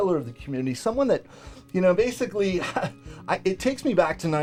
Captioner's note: chuckles